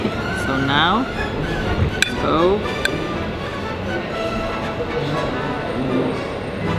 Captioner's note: spoon clinks